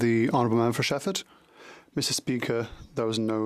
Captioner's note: speaking French